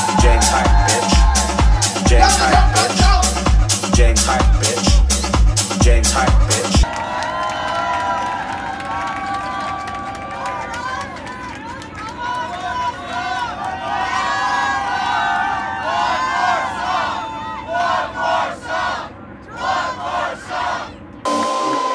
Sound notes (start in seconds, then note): 7.2 crowd cheers; 12.7 crowd; 21.2 crowd cheering; 21.2 slow music